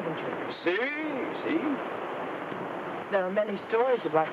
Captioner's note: speaks in foreign language